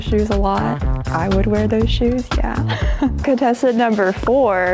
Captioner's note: chuckles